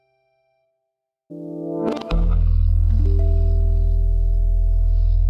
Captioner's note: chimes ring